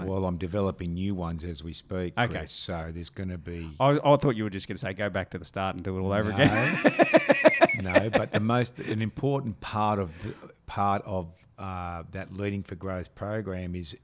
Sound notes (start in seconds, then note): 6.2 laughing